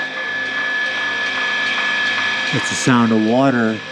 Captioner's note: pump running